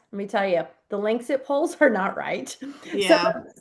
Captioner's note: laughs